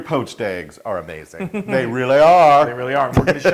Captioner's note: laugh; laugh